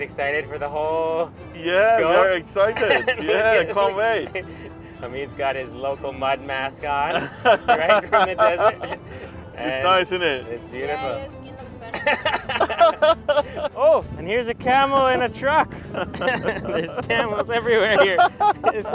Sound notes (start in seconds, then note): 8.7 laughs; 11.8 laughs; 15.7 laughs